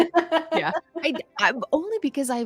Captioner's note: laughs